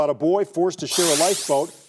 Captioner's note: buzzer sounding